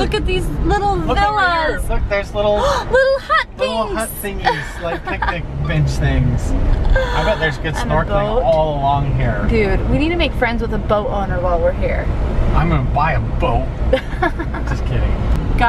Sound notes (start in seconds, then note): 13.9 laughs